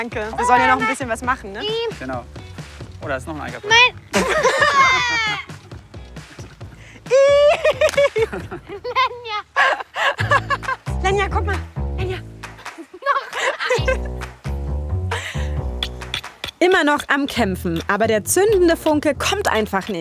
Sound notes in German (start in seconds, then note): 7.0 Gelächter; 13.6 Abwartende Musik